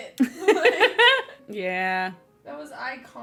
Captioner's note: laughs